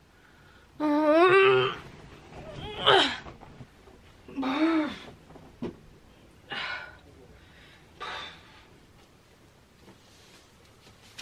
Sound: groans

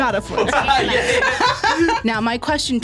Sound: laughs

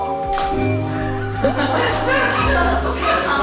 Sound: laughing / Still getting used to it

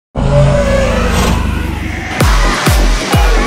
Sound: dinosaur roar; driving music

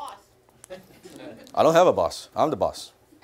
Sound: laughter

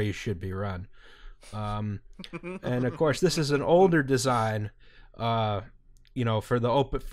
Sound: laughter

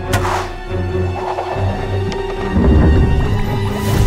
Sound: dramatic music; arrow whooshes

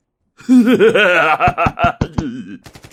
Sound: evil laughing

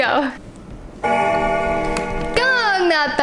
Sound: bell Ringing

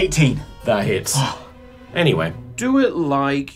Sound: relieved sigh

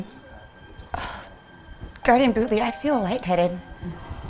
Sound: sighs

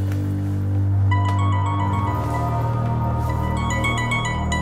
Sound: cell phone ringing

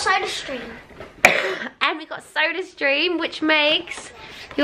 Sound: coughs

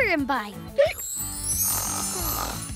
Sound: snoring

